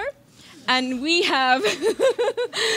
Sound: laughs

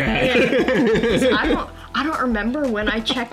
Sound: man chuckling

